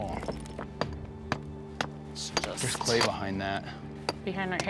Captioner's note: hammering